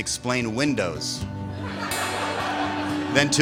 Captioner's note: laughter